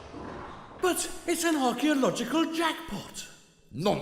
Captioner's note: none